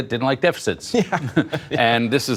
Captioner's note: laughter